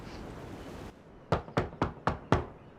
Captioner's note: knocking